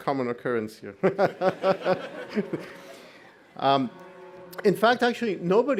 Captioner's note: all laughing